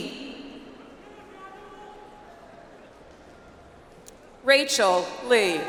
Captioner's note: audience applauds